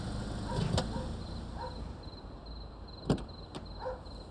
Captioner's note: dog barks